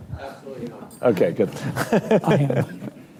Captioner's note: laughter